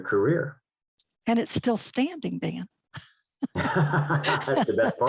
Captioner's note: both laugh